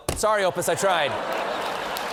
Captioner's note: laughter; applause